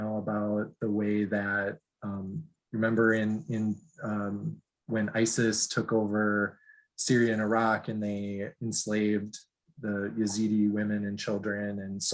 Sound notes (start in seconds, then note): none